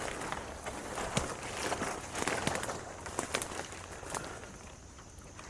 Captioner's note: plants and sticks crackling